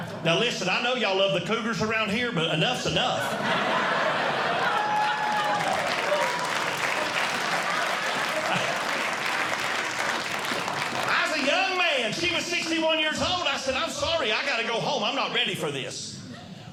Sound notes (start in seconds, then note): 3.1 audience Laughing; 6.7 audience Clapping